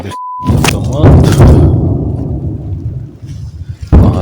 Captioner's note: sounds of explosions